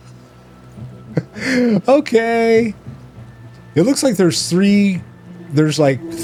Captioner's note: laugh